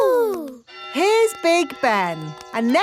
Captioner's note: clock chimes